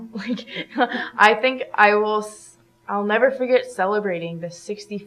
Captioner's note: chuckles